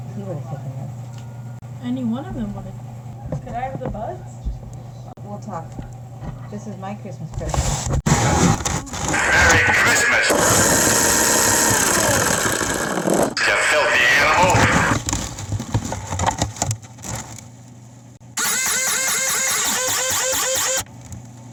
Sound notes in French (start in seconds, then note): 7.8 bruits de microphone; 10.8 ventilateur vrombissant; 18.3 la pompe grince